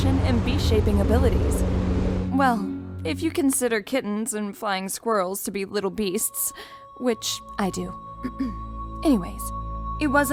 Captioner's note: clears throat